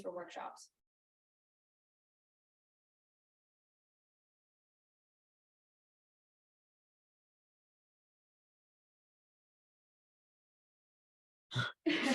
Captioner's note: laughter